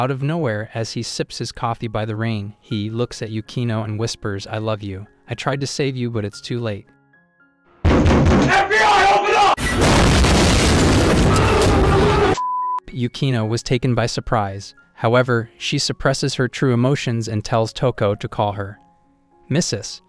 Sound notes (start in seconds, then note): 9.6 beep